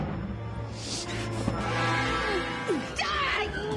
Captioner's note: thunder rumbles; norma gasps, breathes heavily